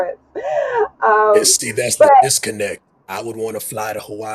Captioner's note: chuckles